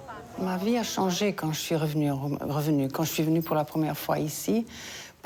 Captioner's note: speaking foreign language